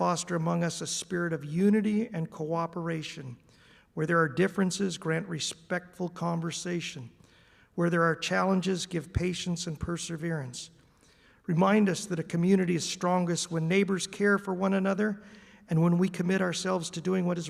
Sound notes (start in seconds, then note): none